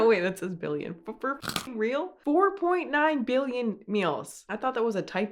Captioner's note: crunch